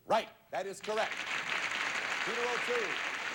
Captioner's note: audience applauding